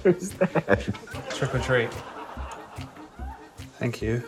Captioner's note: laughs